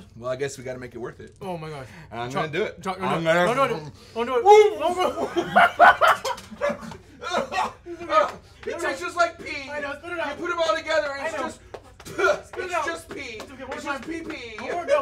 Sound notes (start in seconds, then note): 4.8 laughs; 5.2 heaves; 5.7 gags; 12.3 spits